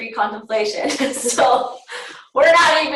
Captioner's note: laughter